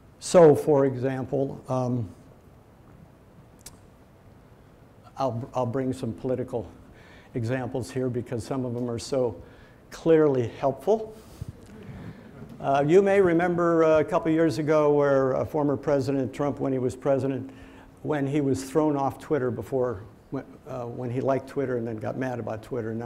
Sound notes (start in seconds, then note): 11.1 laughs; 11.6 audience laughing